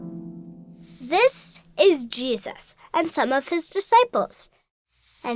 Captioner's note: voiceover